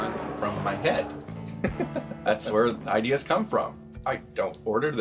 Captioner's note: laughs